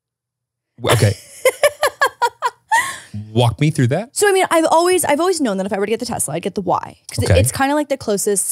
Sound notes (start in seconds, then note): 0.8 laughs